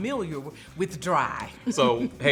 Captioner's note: laughs